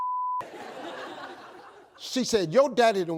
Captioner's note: audience laughs